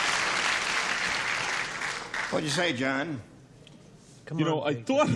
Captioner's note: applause